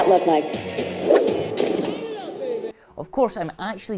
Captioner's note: whooshing